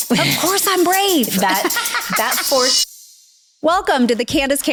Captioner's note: laughing